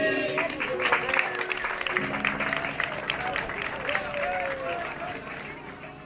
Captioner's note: clapping